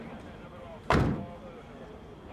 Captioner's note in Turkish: Kapı kapanma sesi